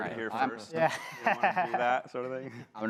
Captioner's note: laughs